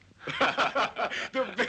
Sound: men laughing

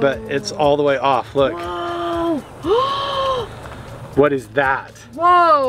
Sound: inhales

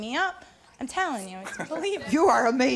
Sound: laughing

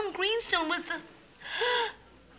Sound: gasp

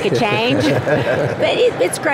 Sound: laughing

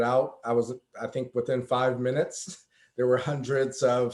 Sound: chuckles

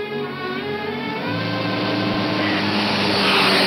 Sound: car whooshing

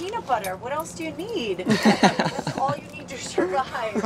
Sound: people laughing

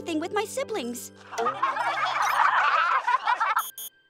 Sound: siblings laughing

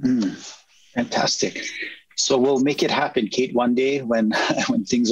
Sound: chuckles

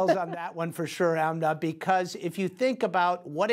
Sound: laughter

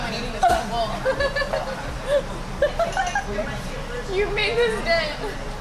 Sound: laughing

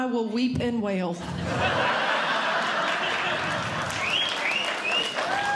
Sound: audience Laughing; audience Clapping

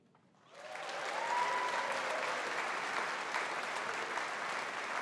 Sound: audience applauding

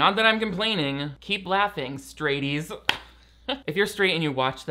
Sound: claps hands once

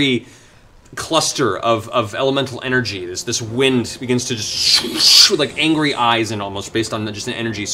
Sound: wind sounds

